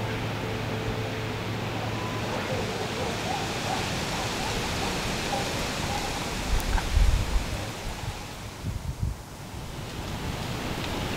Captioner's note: sound of light wind in trees